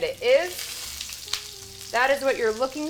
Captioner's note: oil sizzling